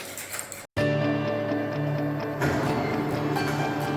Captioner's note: sound of bombe working